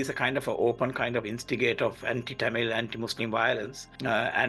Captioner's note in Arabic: صوت هادئ: "كل جيل حمل الذاكرة بطريقته"